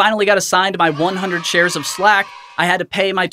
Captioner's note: crowd cheering